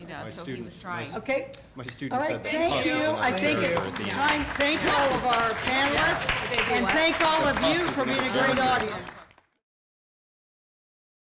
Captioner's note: applause